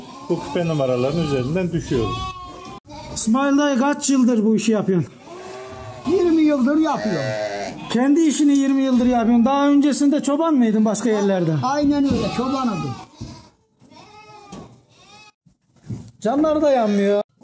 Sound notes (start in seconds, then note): 13.8 lamb sheep bleating sounds meeee meee meee